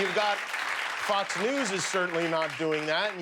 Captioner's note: cheers and applause